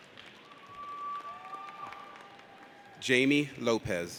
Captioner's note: audience cheers